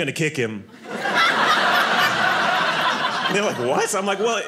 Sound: audience laughing

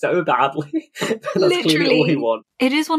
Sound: laughing

